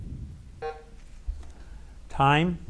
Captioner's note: bell buzzes